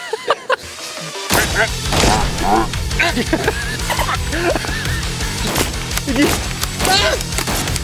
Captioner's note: laughs; shotgun sound effects; yelling in short bursts